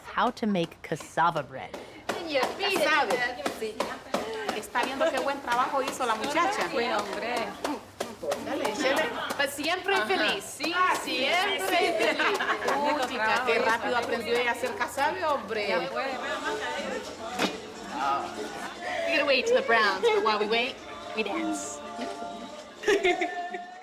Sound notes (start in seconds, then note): 2.9 speaking Spanish; 12.3 conversing in Spanish